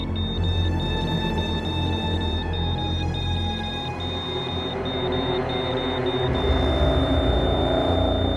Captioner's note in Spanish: Sonido continúo de telemetría